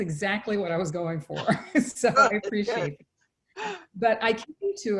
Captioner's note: both laugh